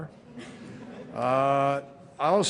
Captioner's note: laughter